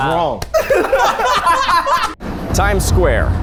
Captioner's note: everyone laughing